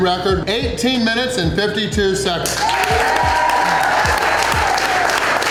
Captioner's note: crowd; crowd cheering